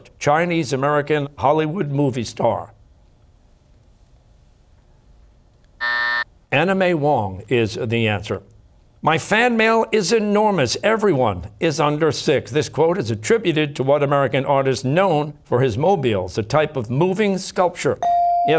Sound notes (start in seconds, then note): 5.8 buzzer